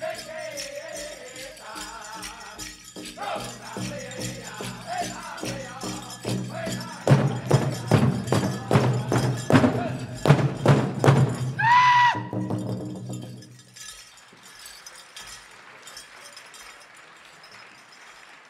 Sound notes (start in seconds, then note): 0.1 regalia ornaments jingling; 3.3 drum beating with increasing cadence; 11.8 dancer chants a shout; 11.8 drum rolling; 14.8 audience applauding